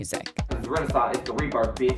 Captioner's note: soundbite of archived recording